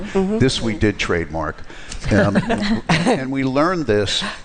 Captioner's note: laughter